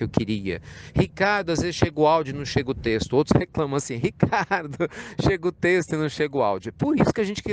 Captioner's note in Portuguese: Risos